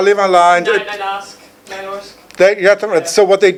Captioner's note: speaking foreign language